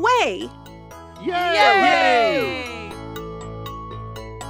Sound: all cheer

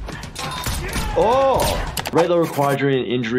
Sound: gunshots crack

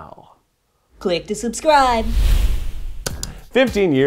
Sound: air whooshes; calm upbeat music

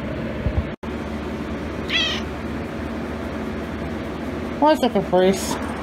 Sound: Caprice meows

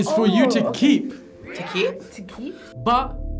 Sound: crowd

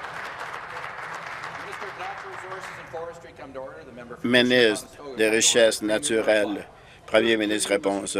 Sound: applause

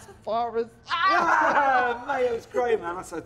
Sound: laughter

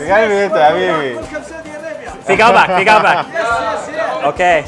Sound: all speak foreign language

